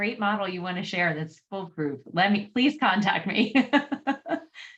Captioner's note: laughter